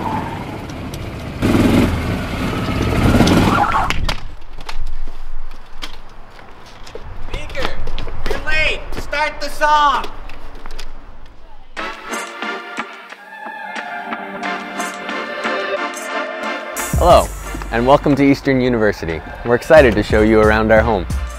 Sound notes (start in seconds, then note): 0.0 engine revs; 0.0 tires screech; 4.2 rustling; 12.1 lighthearted music